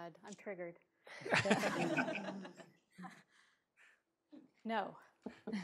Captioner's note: all laughing